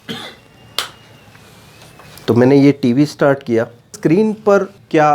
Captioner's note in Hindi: गला साफ़ करने की आवाज़